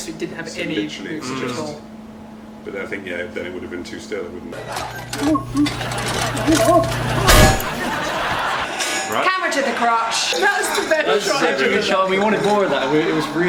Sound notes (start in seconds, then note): 4.6 general commotion; 8.0 laughs